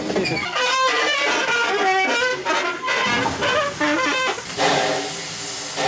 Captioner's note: wheels squeaking and creaking